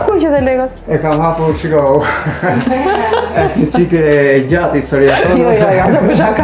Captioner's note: laughs; laughs